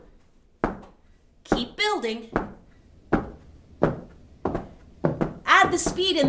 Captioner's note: feet stomping